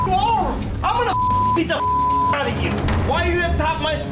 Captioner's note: beep